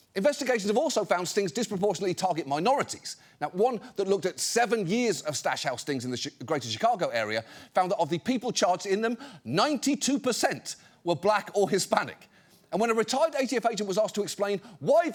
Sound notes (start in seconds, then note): none